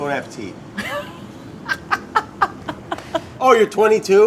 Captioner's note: laughs